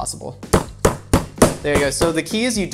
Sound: banging

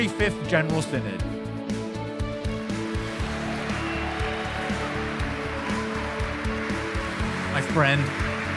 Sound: applause

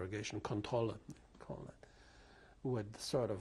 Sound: german

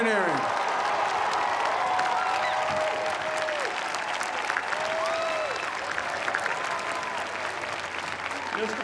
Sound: cheers and applause

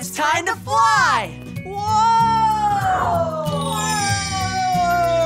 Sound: stars twinkling

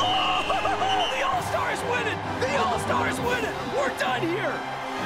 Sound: screams; crying

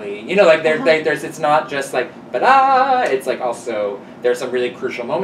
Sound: mimics music chord

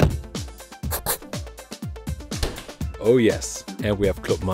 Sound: door closing; pencil scratching

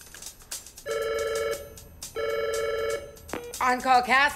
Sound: phone ringing

